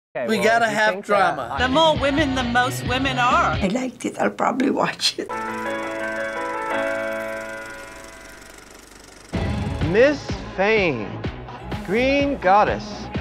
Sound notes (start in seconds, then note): 5.3 ragtime music; 7.6 movie reel clicking